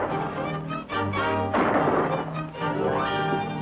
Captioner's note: gunshots